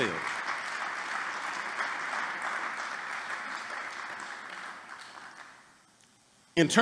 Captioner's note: applause